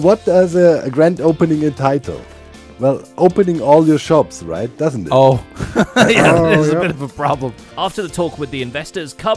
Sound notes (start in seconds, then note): 5.4 laughs